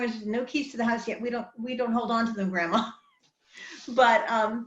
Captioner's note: laughs